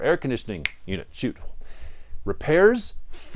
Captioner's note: snaps fingers